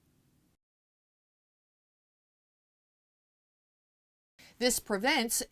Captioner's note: no Sound Present